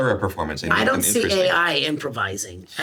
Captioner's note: none